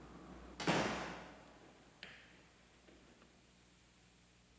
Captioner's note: door slams